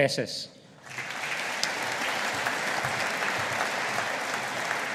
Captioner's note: audience applauding